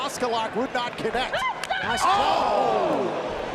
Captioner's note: Ember shouts